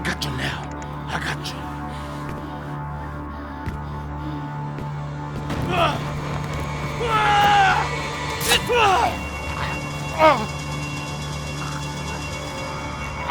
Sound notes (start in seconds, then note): 4.2 suspenseful music; 6.8 yelling; 10.1 grunting and choking